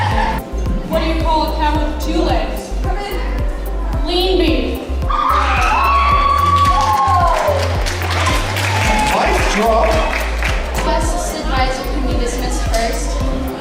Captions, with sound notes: - What do you call a cow with two legs? Lean beef. (students cheering and clapping) (bright music continues) - Special sixth advisory can be dismissed first.